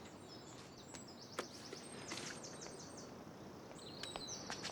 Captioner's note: birds twittering